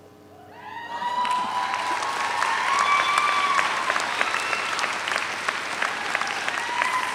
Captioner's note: audience cheers; audience applauds